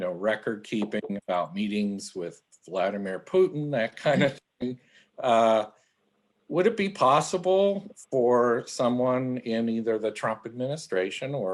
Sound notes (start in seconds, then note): 4.0 laughs